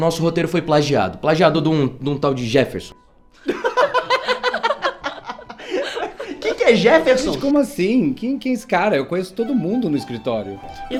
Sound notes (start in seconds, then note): 3.4 laughter